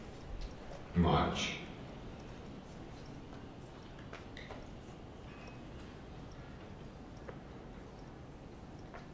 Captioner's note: computer voice